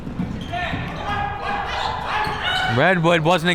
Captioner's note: crowd members shouting